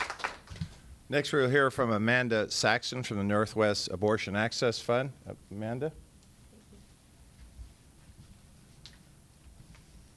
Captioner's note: applause